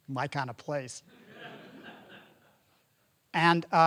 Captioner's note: audience laughing